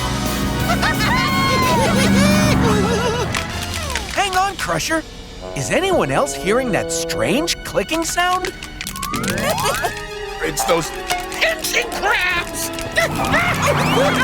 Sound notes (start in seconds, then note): 0.0 laughing, cheering; 3.1 clicking; 7.9 clicking; 13.0 screaming